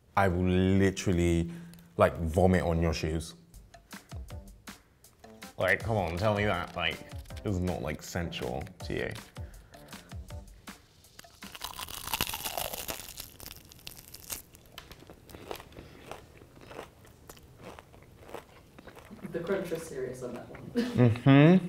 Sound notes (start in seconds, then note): 11.2 chicken crunches loudly; 15.7 chewing